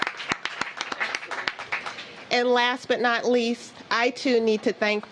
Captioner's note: cheers and applause